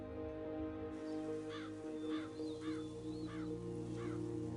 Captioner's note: bird squawking